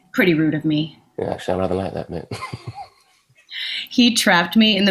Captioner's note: chuckling